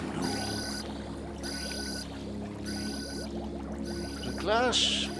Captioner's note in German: Signal ertönt wiederholt